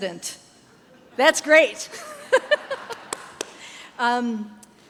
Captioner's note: chuckles